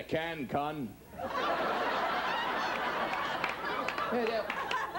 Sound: audience laughs

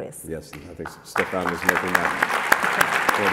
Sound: applause

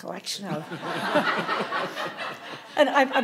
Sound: audience laughing

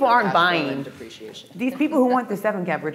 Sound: faintly speaking

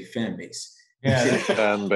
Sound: laughs

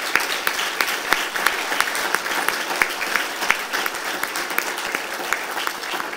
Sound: applause

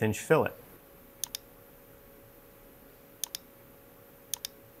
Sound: mouse clicking

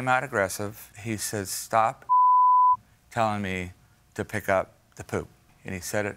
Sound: beep

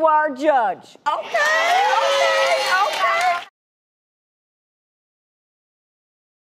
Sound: applause

